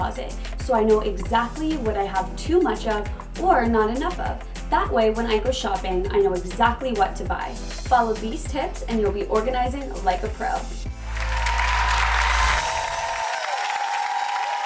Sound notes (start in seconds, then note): 11.0 crowd cheering